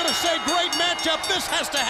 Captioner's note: bell ringing